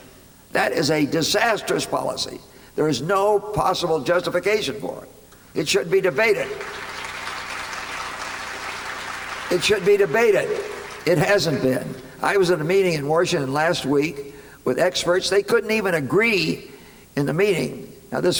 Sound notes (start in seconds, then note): 6.3 applause